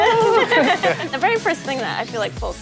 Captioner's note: students laughing